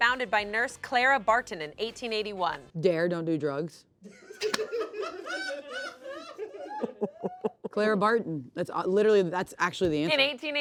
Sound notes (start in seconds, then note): 4.2 everyone laughs